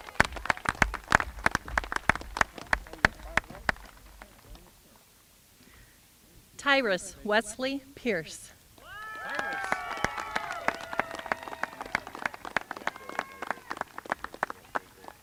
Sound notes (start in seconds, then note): 4.2 applause